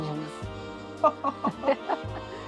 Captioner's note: laughs